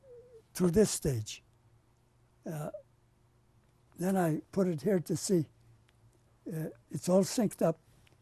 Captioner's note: pauses for 3 seconds